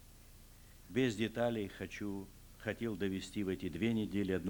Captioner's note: non-english speech